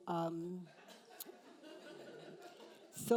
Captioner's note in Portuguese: risos da plateia